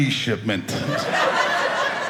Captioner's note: audience laughing